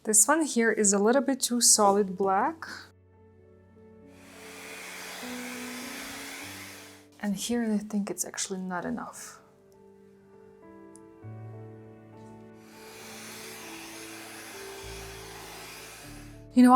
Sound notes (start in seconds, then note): 4.1 blower buzzing; 11.0 gentle music; 12.5 blower buzzing